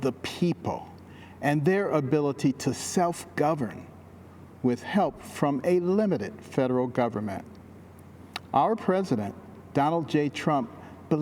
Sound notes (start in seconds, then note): none